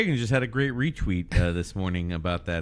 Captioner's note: uh